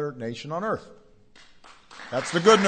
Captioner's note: applause